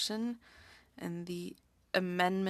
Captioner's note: speaking french